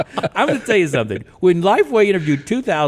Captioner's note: all laugh